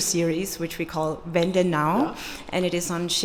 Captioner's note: speaking foreign language